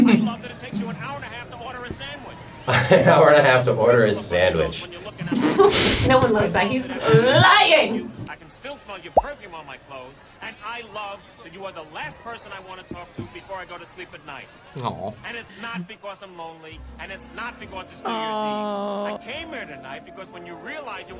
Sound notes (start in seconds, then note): 5.3 snickering; 9.1 graphic popping